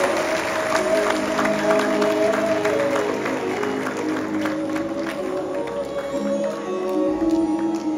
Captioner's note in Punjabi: ਤਾੜੀਆਂ